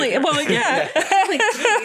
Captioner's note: laughter